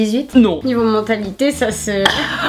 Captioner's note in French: Rires